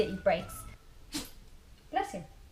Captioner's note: sneeze